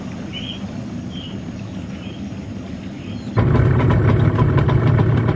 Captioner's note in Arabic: طنين محرك القارب